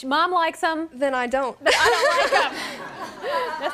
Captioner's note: laughter